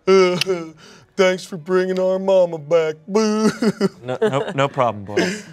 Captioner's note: sobs